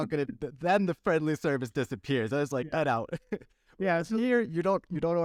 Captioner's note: laughter